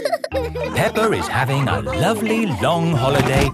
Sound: all laughing

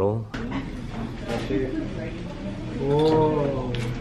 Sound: students murmuring

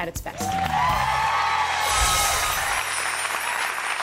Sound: crowd cheering

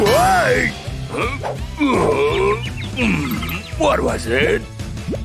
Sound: grunting

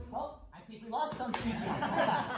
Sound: cheers

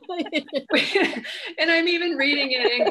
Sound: laughing

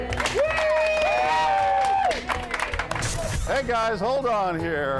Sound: crowd applauds; crowd cheers

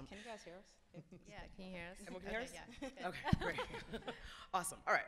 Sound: laughs

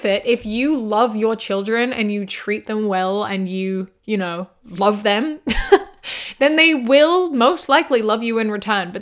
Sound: laughs

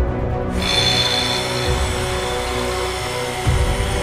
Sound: extractor whirring

